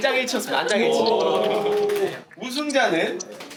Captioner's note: murmuring